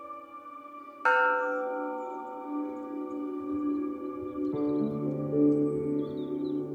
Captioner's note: somber music; bell ringing